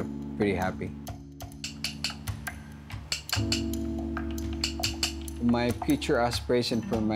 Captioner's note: tapping